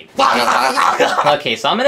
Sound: Junior gagging

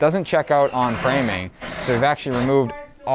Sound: electrical drill buzzing; people talking

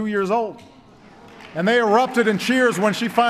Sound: applause

